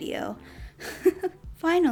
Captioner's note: giggles